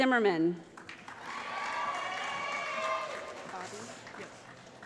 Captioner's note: applause